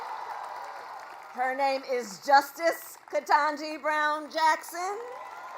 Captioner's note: applause